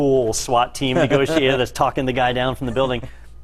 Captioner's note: laugh